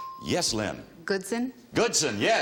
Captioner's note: bell dinging